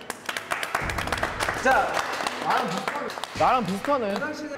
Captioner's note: self applause